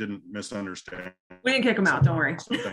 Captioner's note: laughing